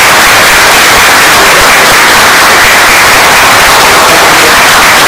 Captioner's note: oklaski